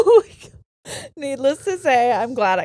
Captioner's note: all laughing; laughs